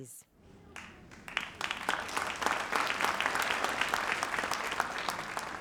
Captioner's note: audience applauds